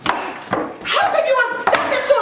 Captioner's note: stomping